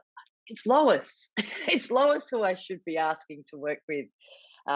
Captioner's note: chuckles